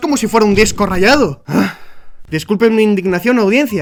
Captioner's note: grunt